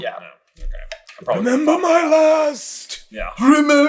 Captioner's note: raspy